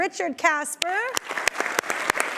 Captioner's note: audience applauding